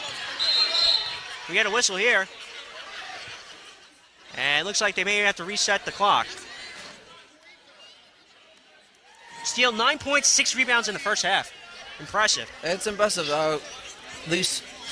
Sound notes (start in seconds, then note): 0.3 whistling